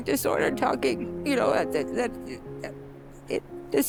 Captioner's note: splutters